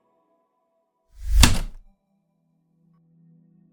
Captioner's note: typewriter click